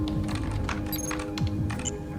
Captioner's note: typing; beeps